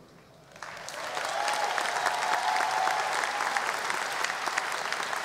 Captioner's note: audience applause